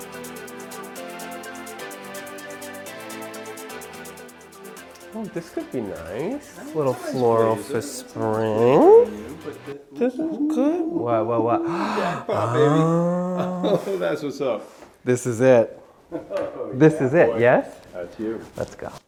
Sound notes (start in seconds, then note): 0.2 light music; 11.6 chuckles; 11.6 gasps